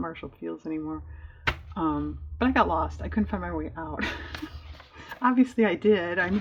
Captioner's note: laughs